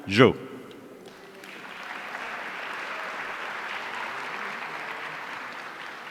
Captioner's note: audience applauding